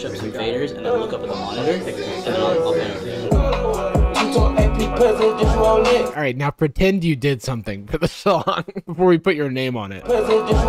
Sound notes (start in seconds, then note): 8.0 laughs